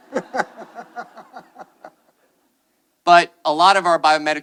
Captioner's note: attendees laughing